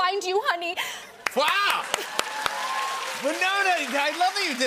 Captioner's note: cheers and applause